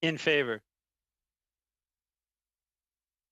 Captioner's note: speaking French